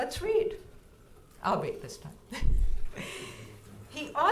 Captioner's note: chuckles